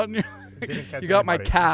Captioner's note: laughing